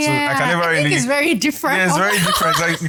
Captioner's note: laughs